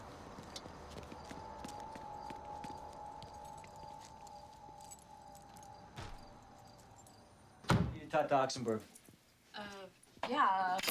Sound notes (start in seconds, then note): 0.3 footsteps tapping; 0.4 suspenseful music